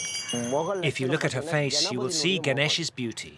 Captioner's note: voiceover